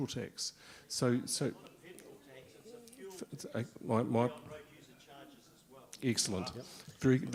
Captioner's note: someone speaking off microphone